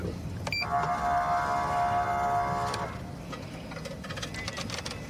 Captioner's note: horn blaring